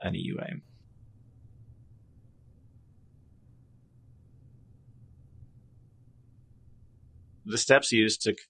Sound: silence

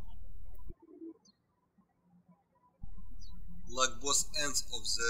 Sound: birds chirping

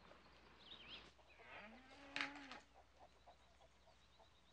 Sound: cow mooing

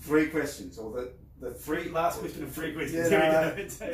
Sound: laughs

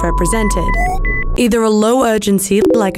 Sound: beeping

